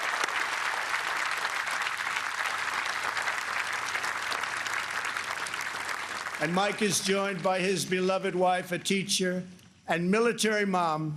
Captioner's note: applause